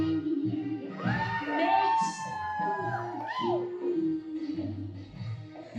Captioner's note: audience cheers